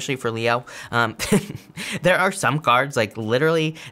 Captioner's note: laughs